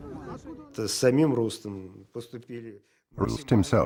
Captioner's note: speaking Russian